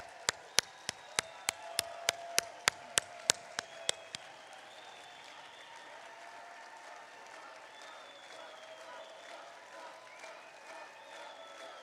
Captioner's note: applause